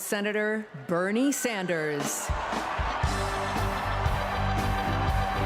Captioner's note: applause